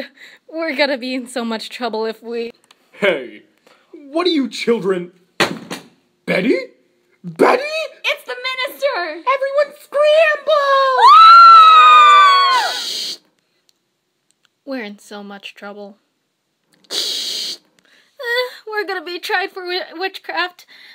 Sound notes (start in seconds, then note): 10.7 screaming of girls everywhere, then static; 16.8 static